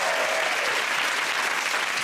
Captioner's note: cheers and applause